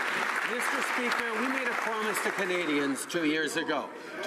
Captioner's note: some Applause